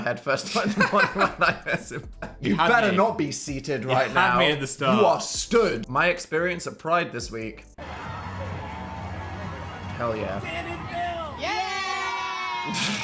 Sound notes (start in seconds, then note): 7.8 audience cheering; 7.9 upbeat music